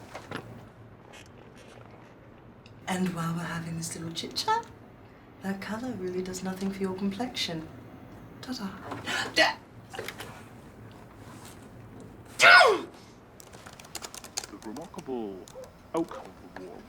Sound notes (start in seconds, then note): 12.4 exclaims; 13.4 keyboard clicks